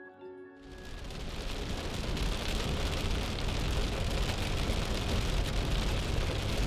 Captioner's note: rain pelting on windshield